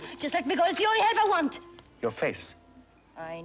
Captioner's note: none